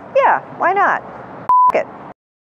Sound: beep

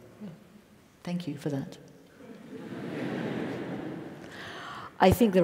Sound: laugh

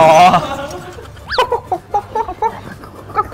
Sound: makes barking sound

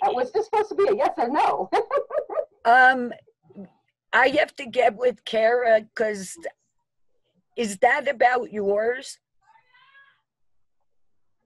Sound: laughter

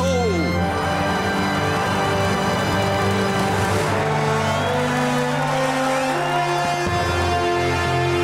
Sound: cheering

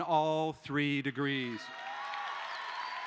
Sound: cheering

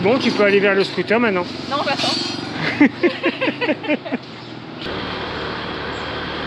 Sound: laughs

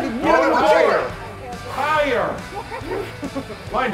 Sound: laugh

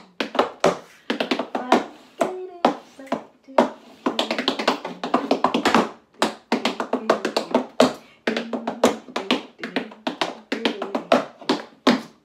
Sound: tap dancing and scatting

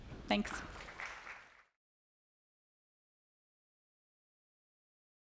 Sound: audience applauds

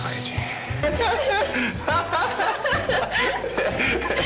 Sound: laughthing

